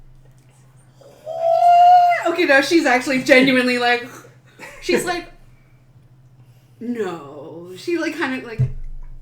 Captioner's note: nervous squeal